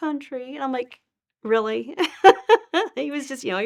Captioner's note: laughing